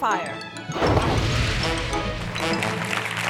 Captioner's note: tree explodes; audience cheering